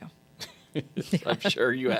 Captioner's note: laughing